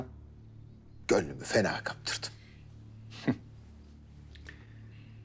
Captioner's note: laughter